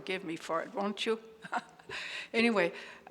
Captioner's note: chuckles